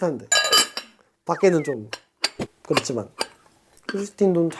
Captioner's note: tsk